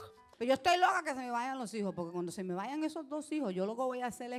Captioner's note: speaking Spanish